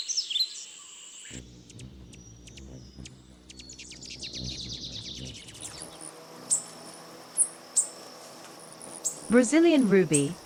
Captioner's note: birds chirping; bird's wing flapping